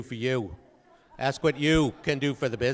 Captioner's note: audience laughing